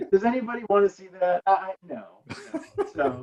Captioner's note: laughing